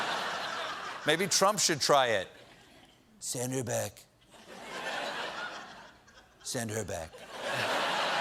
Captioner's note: laughter; as trump very quietly